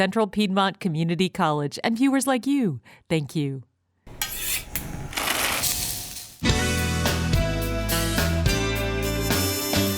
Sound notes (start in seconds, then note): 4.0 knife scrapes; 4.1 flame hisses; 5.7 meat sizzles; 5.7 pasta rattles; 6.4 relaxed jazz music